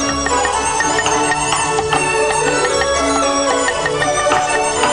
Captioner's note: upbeat music; chopping